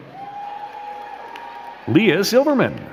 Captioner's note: crowd cheering and clapping